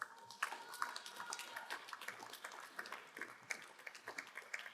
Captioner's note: crowd applauding